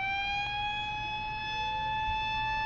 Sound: sirens

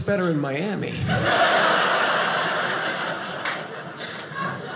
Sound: audience laughing

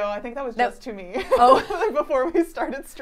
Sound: laughing

